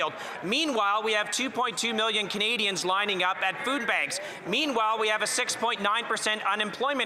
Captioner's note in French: voix de l'interprète